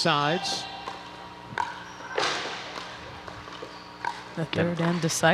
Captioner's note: ball bouncing